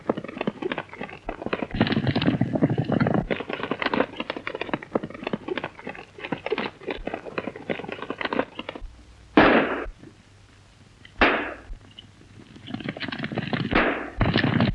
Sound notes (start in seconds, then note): 9.3 gun shot; 11.2 gun shot